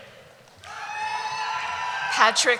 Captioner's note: cheering